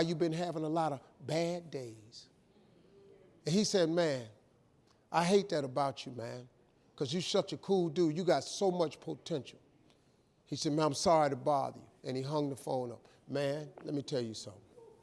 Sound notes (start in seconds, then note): none